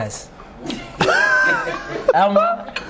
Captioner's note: laughs